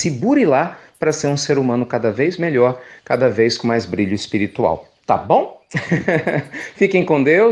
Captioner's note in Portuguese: risos